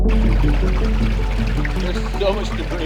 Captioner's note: boat motor hums